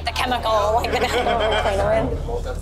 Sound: laughing

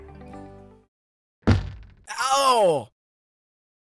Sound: thud

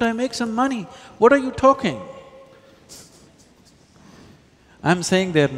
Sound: laughs

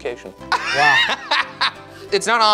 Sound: laughs

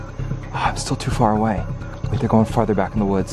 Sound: sighs

